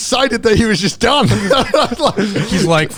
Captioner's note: laughing